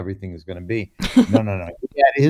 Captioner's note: laughs